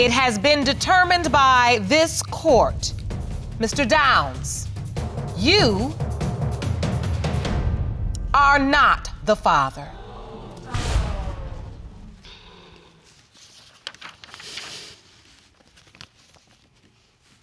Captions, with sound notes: it has been determined by this court, Mr. Downs, you are not the father. (AUDIENCE EXCLAIM) (PAPER RUSTLES) (SIGHS)